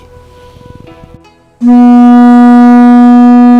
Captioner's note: horn blowing